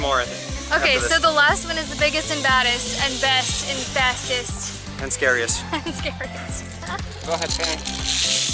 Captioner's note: laughter